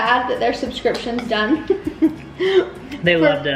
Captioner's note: chuckles